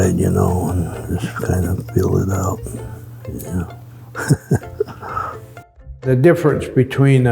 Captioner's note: chuckles